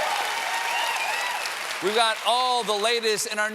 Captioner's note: cheers and applause